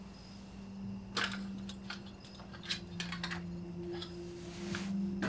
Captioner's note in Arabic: طقطقة الكاسيت